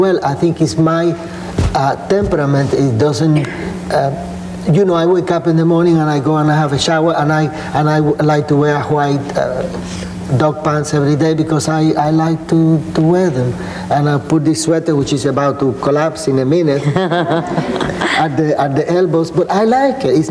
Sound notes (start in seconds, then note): 16.8 laughing